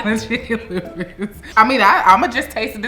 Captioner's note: laughs